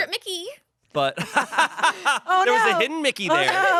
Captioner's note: everyone laughs